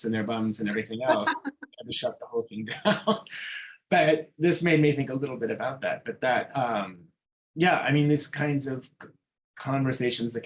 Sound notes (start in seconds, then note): 0.6 chuckling